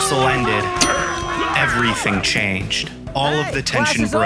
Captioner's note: dinging